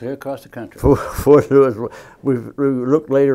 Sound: laughing

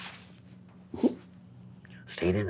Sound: chuckles

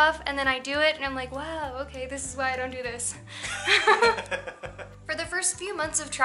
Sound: laughter

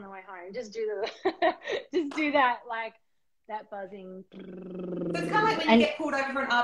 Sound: buzzing sounds

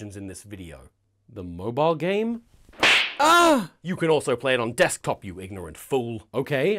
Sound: slap

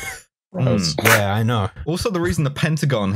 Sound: scoffs

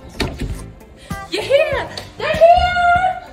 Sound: shouts

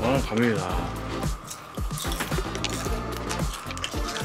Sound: crunch crunch

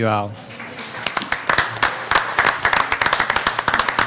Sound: applauding

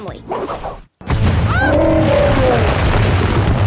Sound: screaming, grunting

